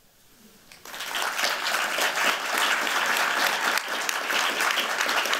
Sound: applause

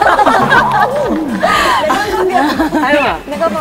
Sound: giggle

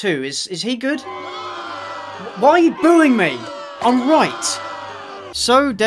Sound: booing

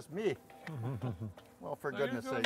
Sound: men chuckling

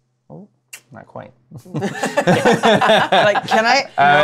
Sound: laughter

